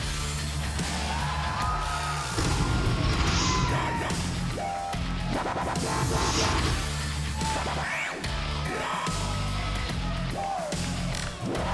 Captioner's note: crowd cheering